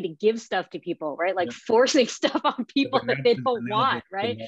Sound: laughing

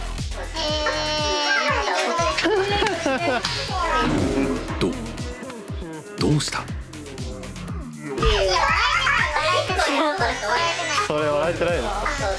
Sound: tries to laugh but fails

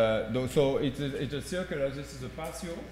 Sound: speaking french

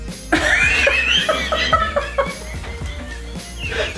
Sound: laughter

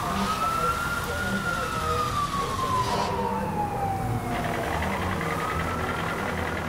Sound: sirens; chatter over radios; threatening music

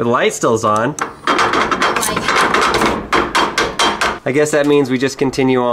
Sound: scanner clanking

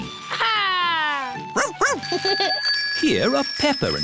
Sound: giggles

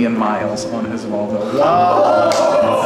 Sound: group cheers

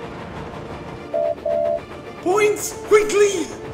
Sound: oliver whistles

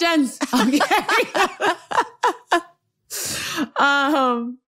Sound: laughter

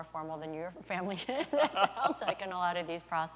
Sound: laughter

